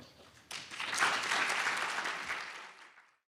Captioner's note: audience applauding